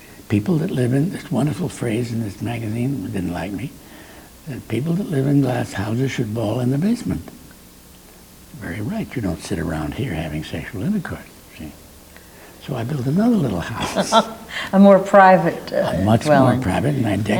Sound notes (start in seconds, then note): 13.3 laughs